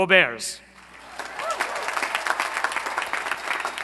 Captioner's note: applause